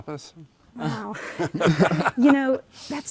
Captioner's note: laughing